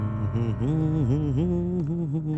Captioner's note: humming